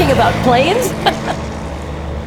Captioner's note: laughter